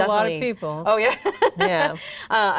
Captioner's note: laughs